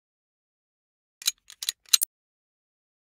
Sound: sound of gun click

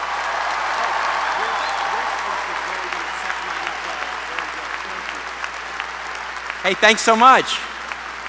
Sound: applause

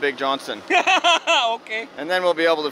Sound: laughing

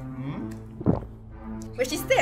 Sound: swallows saliva

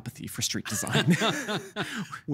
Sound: both laughing

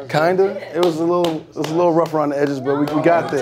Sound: clapping

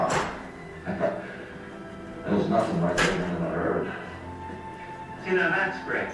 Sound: chuckles; voiceover

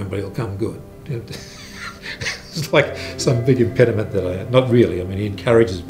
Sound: laughs

